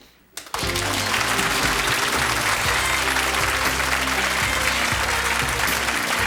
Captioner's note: audience applause; jazzy music